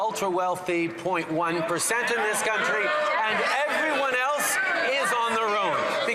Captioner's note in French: voix de l'interprète